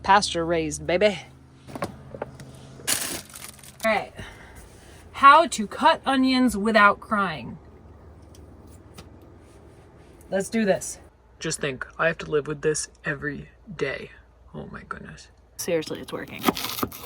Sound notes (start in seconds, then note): 2.8 bag rustles